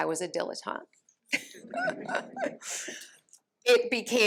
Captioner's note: laughter